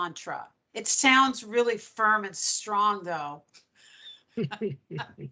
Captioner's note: laughing